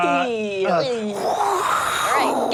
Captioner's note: giggles; whooshing